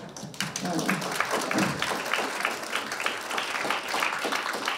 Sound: audience applauding

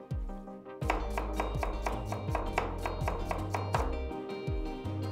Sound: chopping sound

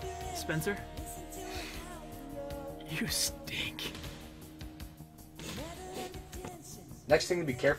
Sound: sniff

